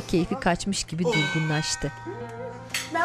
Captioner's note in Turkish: Kapı zili sesi